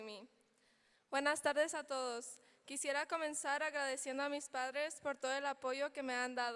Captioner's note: speaking in foreign language